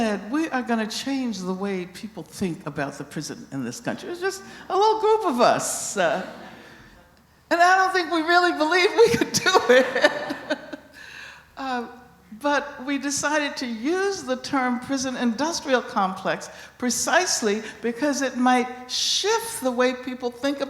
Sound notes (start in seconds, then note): 9.3 laughing; 9.6 laughter